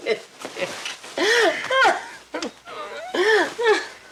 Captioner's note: Betty laughing